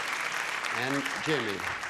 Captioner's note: clapping